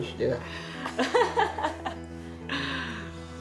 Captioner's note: laughing